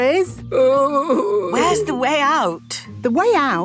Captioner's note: groaning